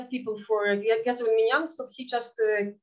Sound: speaking in Yiddish

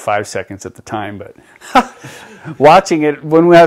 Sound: laughs

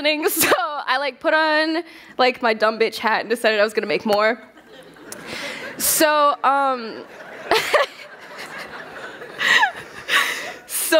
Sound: laughter

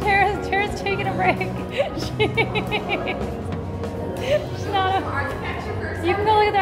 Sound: maniacally giggling

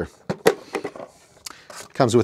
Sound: feeder popping

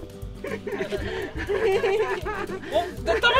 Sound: laughter

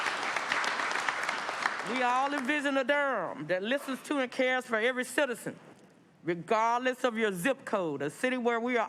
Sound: applause

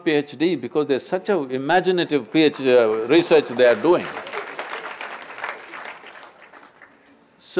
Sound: applause

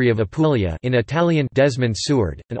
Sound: in Italian

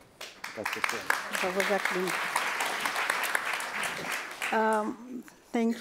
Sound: applause

